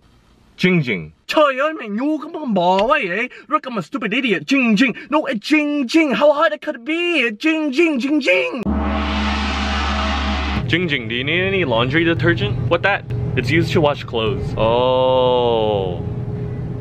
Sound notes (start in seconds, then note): 8.6 gong sound